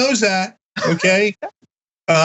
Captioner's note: laugh